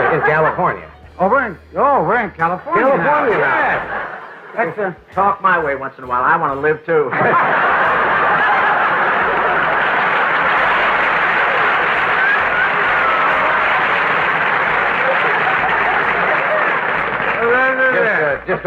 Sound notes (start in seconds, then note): 7.0 audience laughter